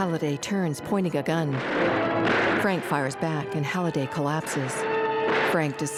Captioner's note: gunshots